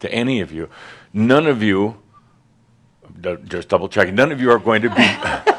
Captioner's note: some laughter